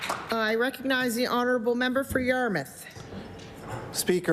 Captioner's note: applause